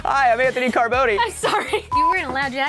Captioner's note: laughs